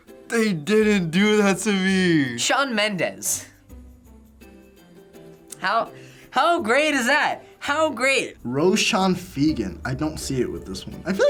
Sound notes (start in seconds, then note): 5.4 sarcastic